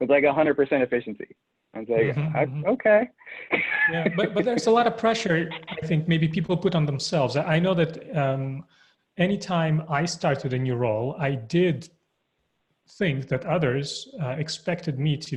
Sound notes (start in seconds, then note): 3.2 laughs